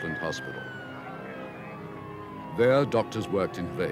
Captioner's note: ambulance siren blaring